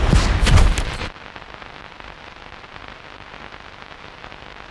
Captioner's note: static crackling